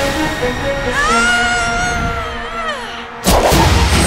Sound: screaming

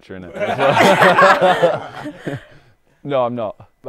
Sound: people laughing

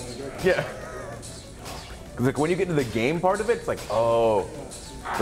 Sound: laugh

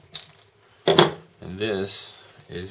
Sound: thud

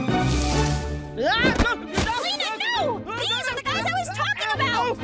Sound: screams

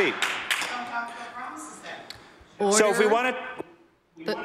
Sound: some Applause

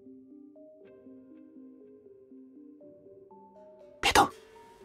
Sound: muffled voice

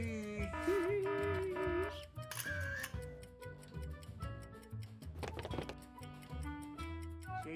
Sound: buzzer buzzing; camera clicking; light music

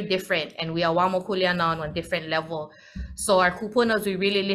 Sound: speaks foreign language

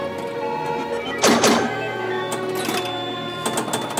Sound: beeping

